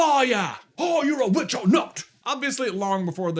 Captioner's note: accented